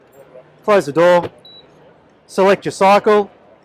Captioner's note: high pitched beep